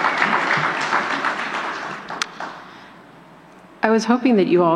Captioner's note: applause